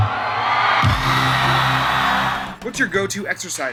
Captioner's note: crowd cheering